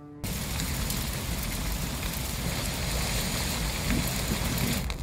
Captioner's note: gevrek çatırtı ateşi